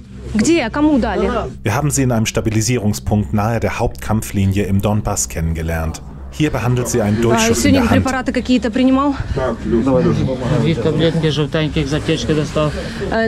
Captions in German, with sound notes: Wir haben sie in einem Stabilisierungspunkt nahe der Hauptkampflinie im Donbass kennengelernt. Hier behandelt sie einen Durchschuss in der Hand. (Sie sprechen Ukrainisch.)